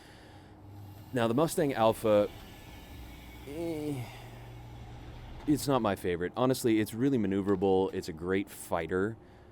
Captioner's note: groans